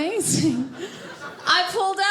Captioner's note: audience laughing